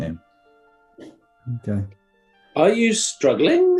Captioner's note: mutters